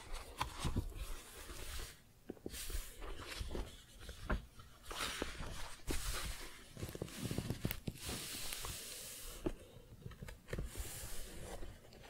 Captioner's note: book shuffling, page turning